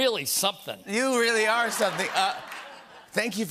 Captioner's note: laughter